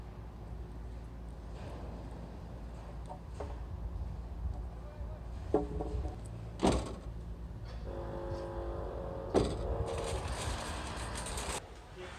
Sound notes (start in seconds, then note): 5.1 clanking; 5.9 car door shuts twice; 9.4 cart rattling; 11.9 people talking